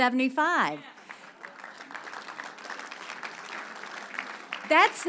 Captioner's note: audience applause